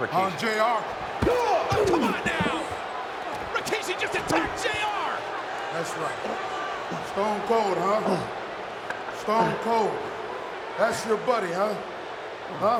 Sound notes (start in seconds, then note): 1.0 fist thuds; 1.4 Jim groaning